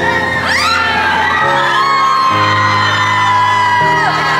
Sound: screaming

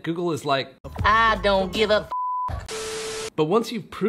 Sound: beep

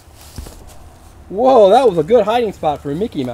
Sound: voiceover

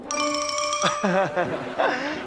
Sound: laughing

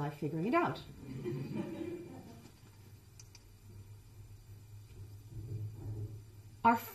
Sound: chuckling

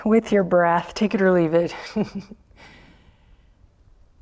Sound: chuckles

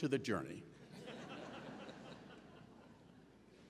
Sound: laughing

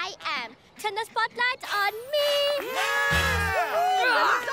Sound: cheering

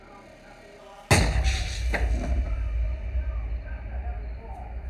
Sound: distant gun firing

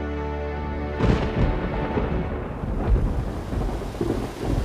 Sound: thunder crashing; rain pattering

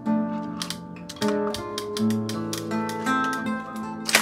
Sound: camera clicks

